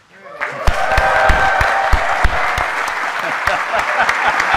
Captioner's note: audience cheering; laughing